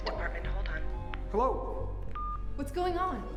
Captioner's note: beep